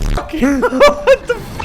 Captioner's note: laughter